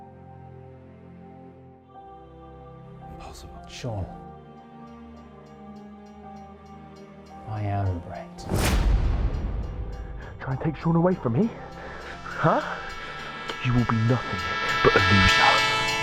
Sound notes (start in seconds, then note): 0.3 somber music continues; 8.4 dramatic beat thuds; 9.6 bell dinging